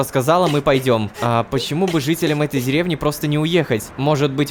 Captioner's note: cries; cries